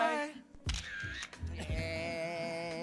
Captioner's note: camera snaps